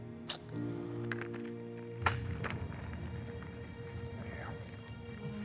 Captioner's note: breathing uneasily